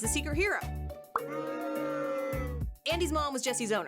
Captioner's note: booing